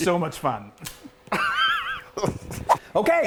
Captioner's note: spaghetti noodles snapping